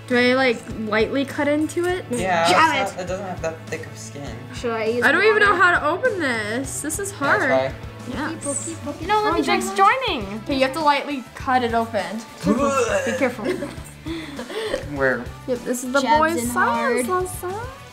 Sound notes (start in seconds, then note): 12.4 puking